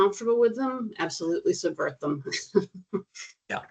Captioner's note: chuckling